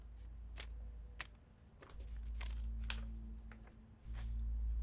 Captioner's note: paper rustles